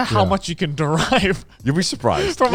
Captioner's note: chuckles